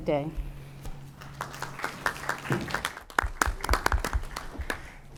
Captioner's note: applause